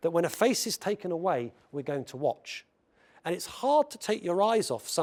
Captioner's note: none